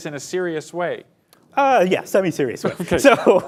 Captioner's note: laughs